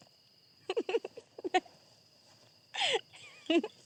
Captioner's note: giggles